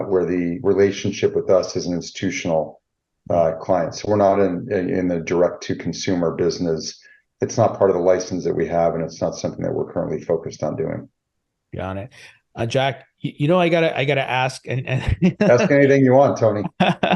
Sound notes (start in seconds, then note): 14.1 laughing